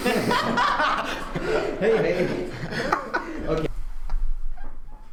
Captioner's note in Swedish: Skrattar